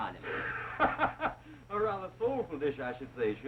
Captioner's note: laughter